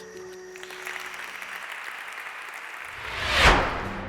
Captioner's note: applause